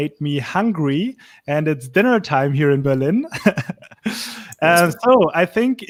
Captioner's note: laughs